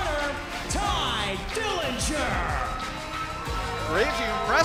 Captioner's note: bell ringing